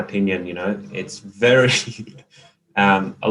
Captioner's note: chuckles